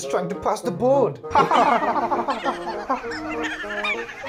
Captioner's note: The Troublesome Trucks laugh